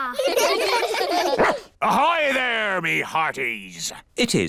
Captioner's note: all giggle; barks